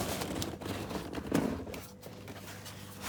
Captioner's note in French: bruit de bâche